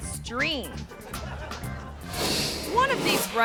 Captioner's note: audience laughing; graphic whooshes